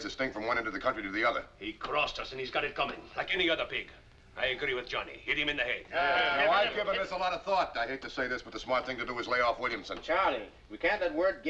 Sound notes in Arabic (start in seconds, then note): none